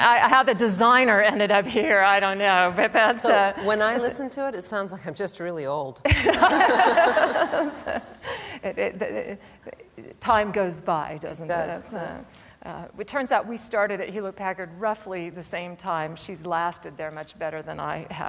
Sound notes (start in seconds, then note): 6.0 laughter